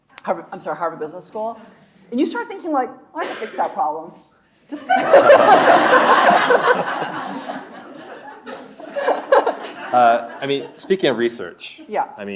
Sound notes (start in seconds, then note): 4.8 laughing; 4.8 audience laughing